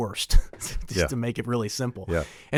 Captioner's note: chuckles